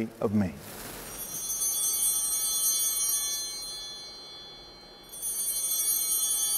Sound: chimes ringing

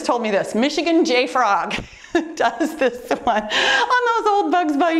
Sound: chuckles

